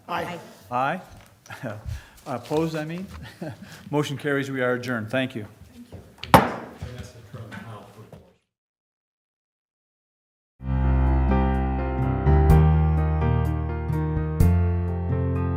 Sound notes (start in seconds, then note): 6.3 gavel